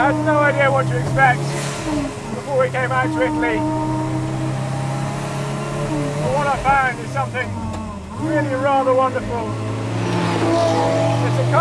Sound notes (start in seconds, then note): 4.1 car engine roars; 9.8 car engine roars